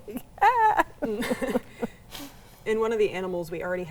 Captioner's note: laughs